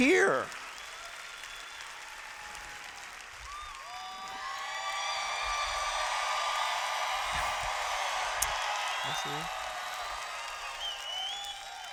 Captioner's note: cheers